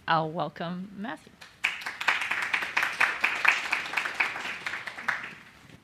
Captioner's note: applause